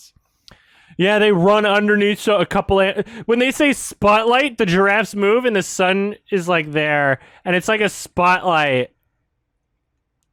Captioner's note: mocking